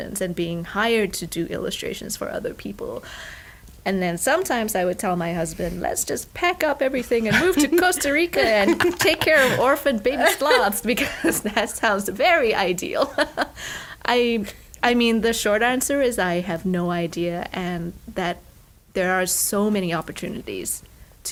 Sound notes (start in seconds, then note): 13.0 laughter